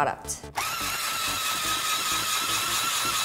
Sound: whirring

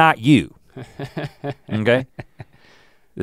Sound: Link chuckles

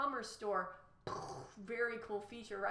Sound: mimics explosion

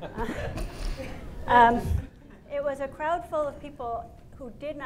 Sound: laughter

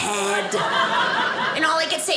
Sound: audience laughing

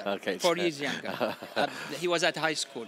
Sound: laughing

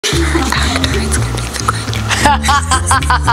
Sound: laughter

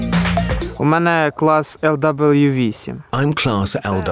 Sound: speaking Ukrainian

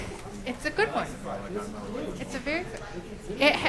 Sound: voiceover; audience chatter

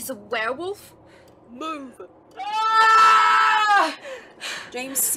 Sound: Remus screams louder

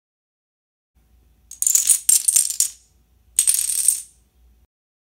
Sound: dominoes falling

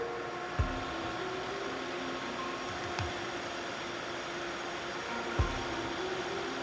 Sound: gentle music; machine whirring

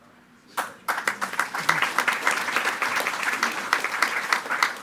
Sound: attendees clapping

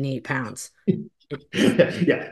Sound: laughs

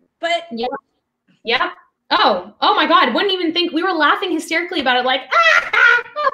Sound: imitates laughter

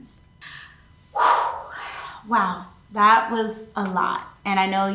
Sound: exhales sharply

